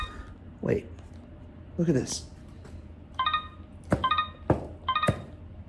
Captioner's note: instrument beeping